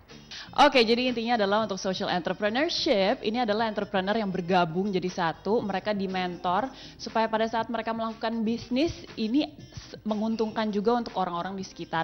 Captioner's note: non-english speech